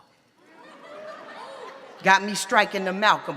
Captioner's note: audience laughs